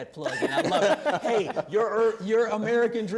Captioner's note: laughter